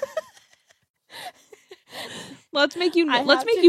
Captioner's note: laughs